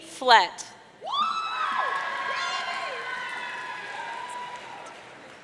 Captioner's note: audience cheering